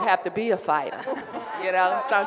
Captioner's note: laughing